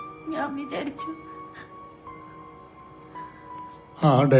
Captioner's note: sobbing